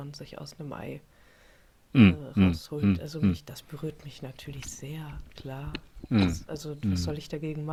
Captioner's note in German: räuspern